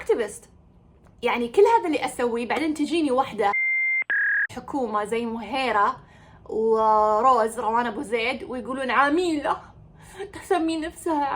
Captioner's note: beeb